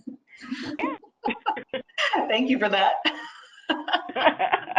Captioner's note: laughing